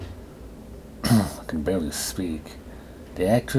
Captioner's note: clears throat